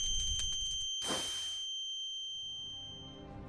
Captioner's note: loud ringing noise; Minecraft extinguish flame noise